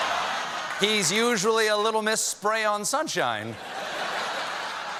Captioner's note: laughter